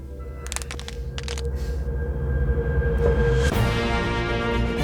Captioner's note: cracks knuckles and neck; dramatic music plays